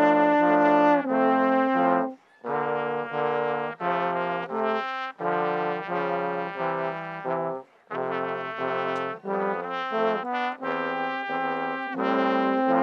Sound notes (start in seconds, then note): none